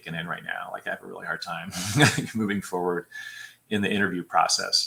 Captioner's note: laughter